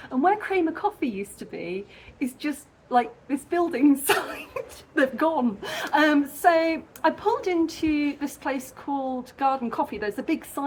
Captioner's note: laughing